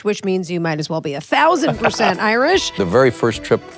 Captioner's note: Peter laughs